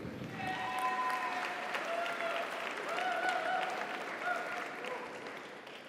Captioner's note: audience applauds; audience cheers